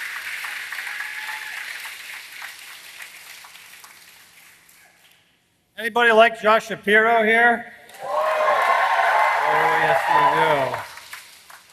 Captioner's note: applause